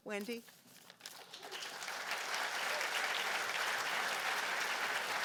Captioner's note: applause